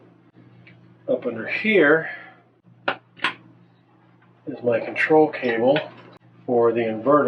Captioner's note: clicking sound